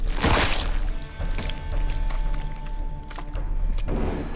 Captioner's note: sputters